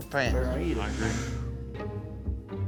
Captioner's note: sucking in